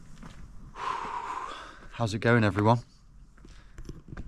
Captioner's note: birds chirping; exhales